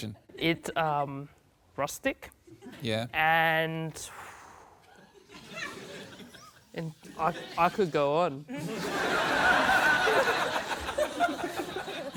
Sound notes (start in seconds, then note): 4.0 blows air; 8.5 laughter